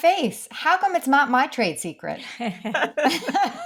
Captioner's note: laughing